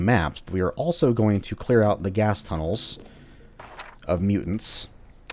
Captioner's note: journal opens